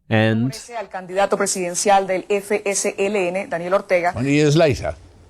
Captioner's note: spanish